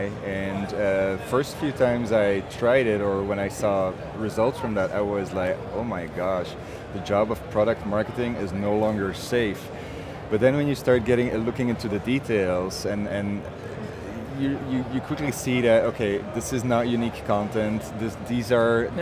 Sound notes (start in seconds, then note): none